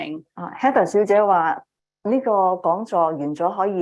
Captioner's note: speaking chinese